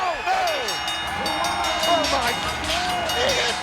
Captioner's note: bell ringing